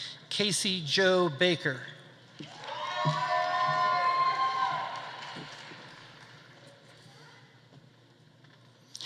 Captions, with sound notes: Casey Jo Baker. (audience applauding) (audience cheering)